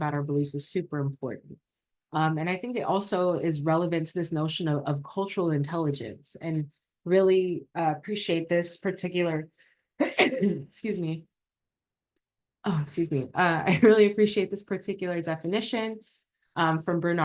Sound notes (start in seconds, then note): 10.0 coughs